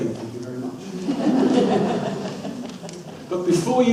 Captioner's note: audience laughs